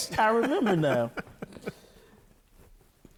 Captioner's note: laughing